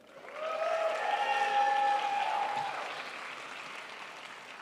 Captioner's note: crowd applauds